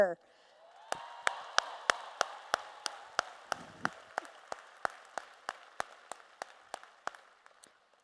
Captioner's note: applause and Cheers